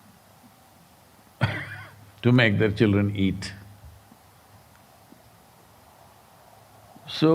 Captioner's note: laughs